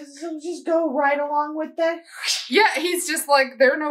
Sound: stab noise

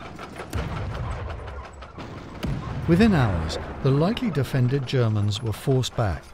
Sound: explosions booming; tank tracks squeaking

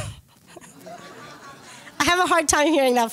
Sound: laughter

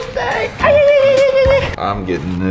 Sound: cheers

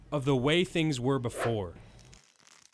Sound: air swooshing; crackling

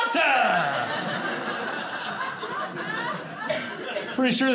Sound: audience laughing

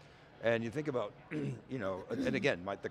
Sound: coughs

